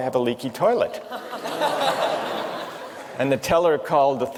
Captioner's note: laughter